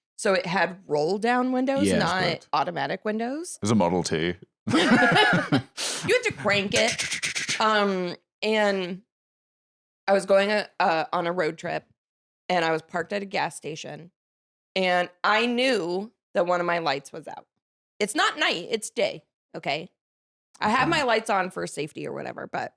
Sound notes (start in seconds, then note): 4.7 laughs